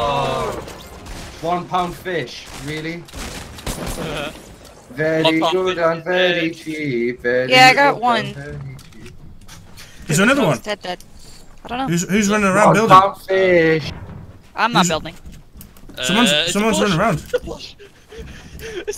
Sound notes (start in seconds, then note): 0.7 whines; 4.3 laughter; 5.1 singing